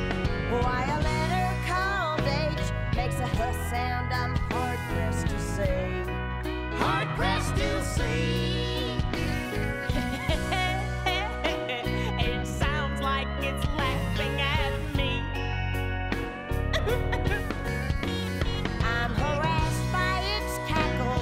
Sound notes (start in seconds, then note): 16.7 sobs